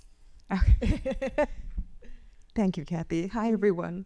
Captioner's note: chuckles